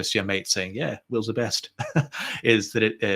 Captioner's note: chuckles